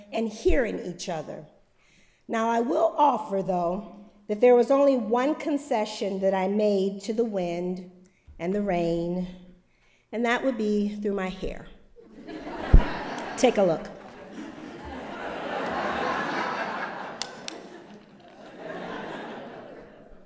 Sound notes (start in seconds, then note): 12.0 laughter; 14.0 applause